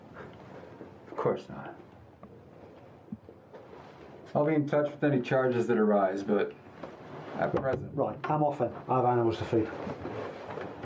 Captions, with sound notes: Of course not. Ill be in contact with any charges that arise, but.... at present.... (Hand smacking table) Right , I'm off then. I have animals to feed.